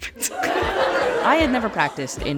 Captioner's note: audience laughing